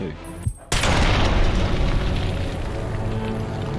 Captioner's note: explosion